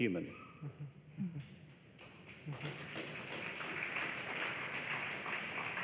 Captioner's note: applause